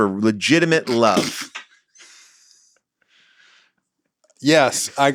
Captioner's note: everybody laughs